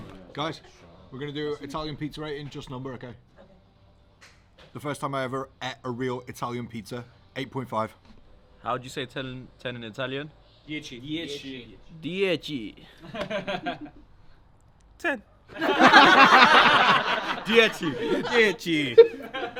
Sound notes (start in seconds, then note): 15.5 all laughing